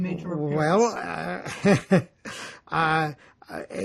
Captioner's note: laughing